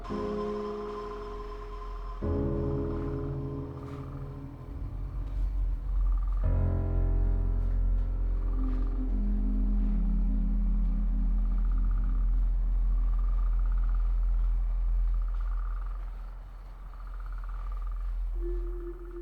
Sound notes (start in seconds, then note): 0.2 moves to somber music; 12.0 wind humming